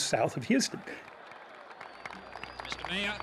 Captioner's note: applause